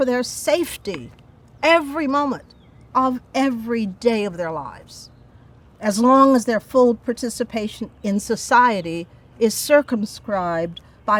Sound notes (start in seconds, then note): none